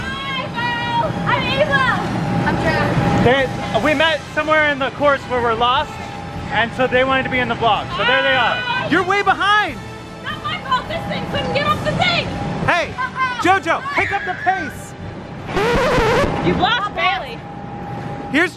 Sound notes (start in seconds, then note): 15.5 silly noise